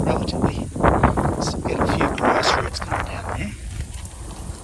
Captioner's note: wind noise